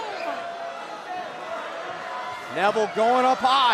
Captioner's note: cheers & applause